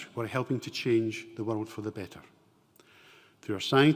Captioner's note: none